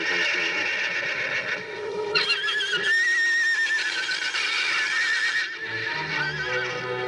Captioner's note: horse neighing